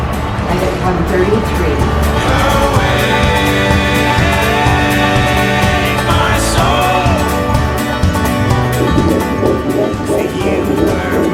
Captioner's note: heartbeat